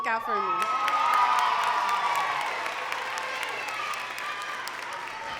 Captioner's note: crowd cheering and clapping